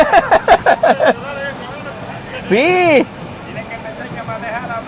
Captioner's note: laughs